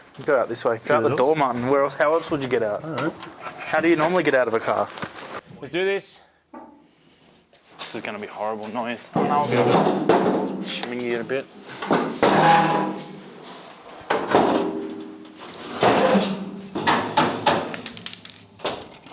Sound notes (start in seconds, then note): 9.8 metal noises, unintelligible chatter, no background music